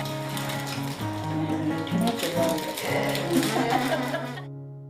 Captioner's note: laughter